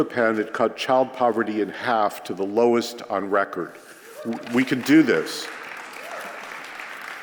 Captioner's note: applause